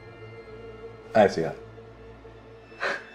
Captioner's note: sarcastically